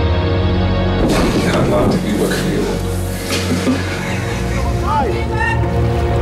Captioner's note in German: Lachen